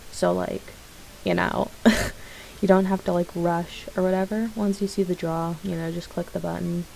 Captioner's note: laugh